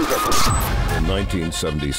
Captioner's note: screeching sound